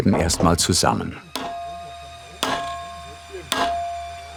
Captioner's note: metallic sounds, working sounds